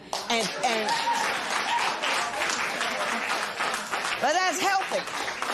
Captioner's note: applause